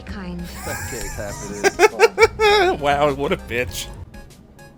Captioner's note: laughing